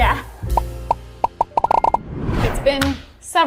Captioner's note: numbers popping